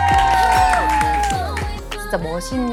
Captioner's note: clapping in anticipation